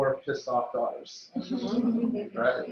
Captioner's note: laughs